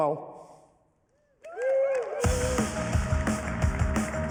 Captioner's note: cheering, applause; upbeat music